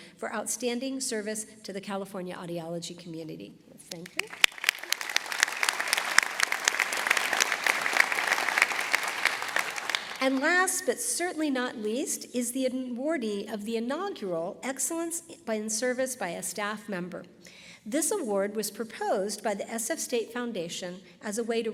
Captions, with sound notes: for Outstanding Service to the California Audiology Community. Let's thank her. [ Applause ] And last, but certainly not least, is the awardee of the inaugural Excellence in Service by a Staff Member. This award was proposed by the SF State Foundation as a way